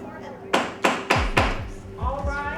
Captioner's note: gavel pounding